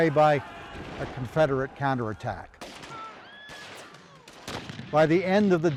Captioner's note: distant gunshots and soldiers shouting